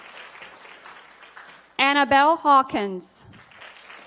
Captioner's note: applause